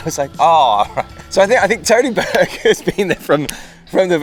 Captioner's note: laughs